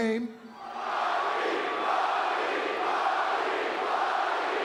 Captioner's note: crowd chanting